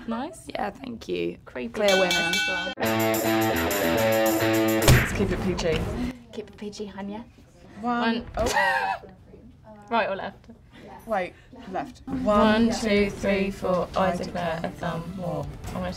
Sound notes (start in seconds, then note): 1.8 bell rings; 2.8 dramatic music; 8.4 laughs